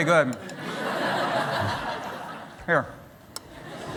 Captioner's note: laughter